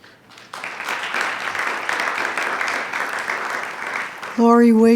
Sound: attendees clapping

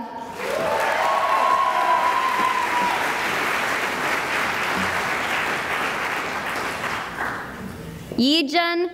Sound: cheering and applause

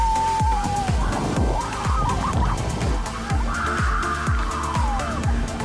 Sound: screaming and laughing

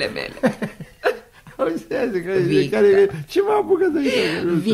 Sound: r laughs

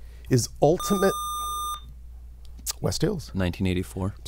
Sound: buzzer

